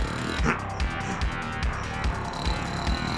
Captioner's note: snoring; grumbling; snoring continues